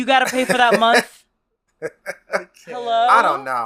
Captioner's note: laughs